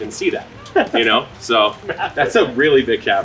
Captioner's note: laughing